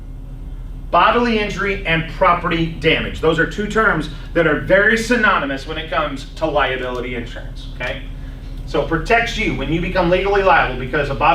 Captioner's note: laughs